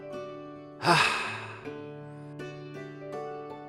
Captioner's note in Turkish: İç Çekme Sesi